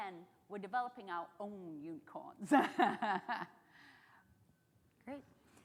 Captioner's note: laughs